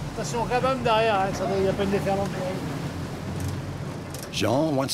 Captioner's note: speaking in foreign language